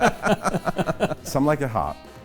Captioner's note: laughter